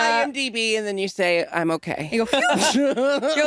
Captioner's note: laughing